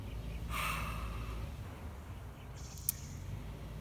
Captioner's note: sighs